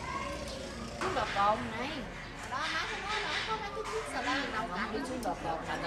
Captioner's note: people discussing very quietly